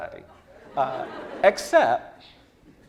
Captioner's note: laughing